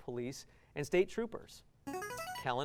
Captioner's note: buzzer